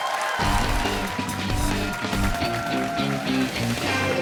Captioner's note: cheers and applause